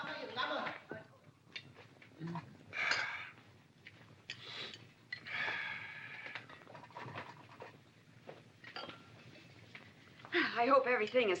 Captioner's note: yammering in Cantonese; dinner sounds